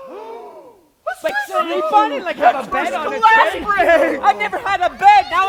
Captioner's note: gasping; shouting over each other